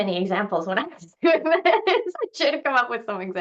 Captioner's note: laughs